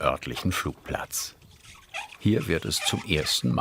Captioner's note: squeaking